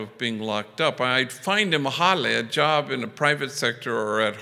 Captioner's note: foreign language